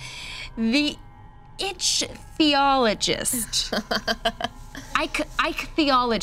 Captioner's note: group laughing